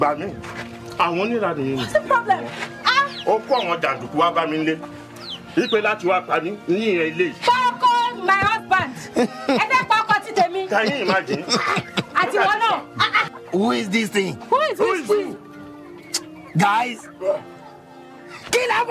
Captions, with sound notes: (man speaking in foreign language) (speaking foreign language) - (speaking in foreign language) my husband. (woman speaking in foreign language) - Can you imagine? (woman speaking in foreign language) - Who is this thing? - Who is this thing? - Who is who? - Guys, kill her for me.